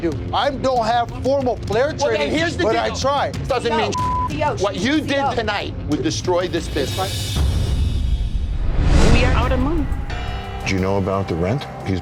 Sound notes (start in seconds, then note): 3.9 beep; 7.4 dramatic music; 7.8 air whooshing